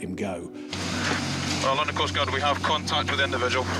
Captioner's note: lifeboat engine whirring